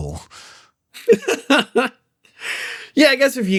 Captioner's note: Sevan Laughs